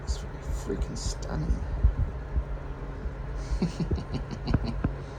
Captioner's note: chuckles